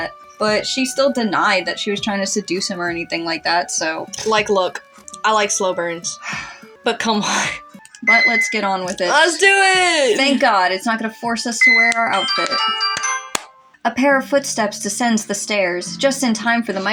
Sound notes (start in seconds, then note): 3.8 scoff; 6.2 sigh